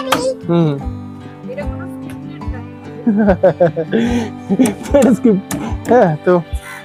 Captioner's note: sound of pipes being fitted; laughter